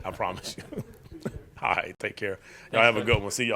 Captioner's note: laughing